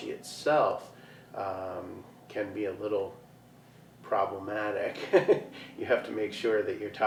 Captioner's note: chuckles